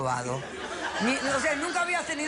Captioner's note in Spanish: risas